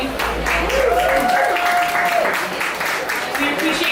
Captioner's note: applause